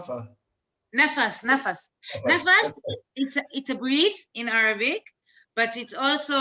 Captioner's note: speaks in arabic